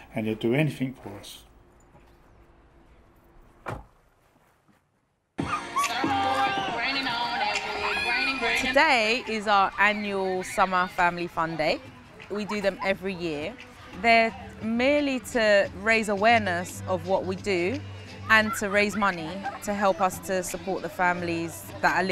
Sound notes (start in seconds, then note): 5.5 children laughing, screaming; 5.5 dance music